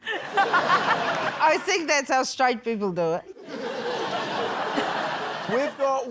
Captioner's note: laughter; laughter